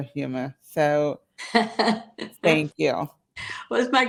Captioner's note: laughs